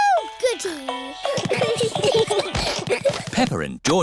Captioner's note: all giggling